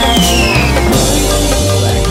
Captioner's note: biff!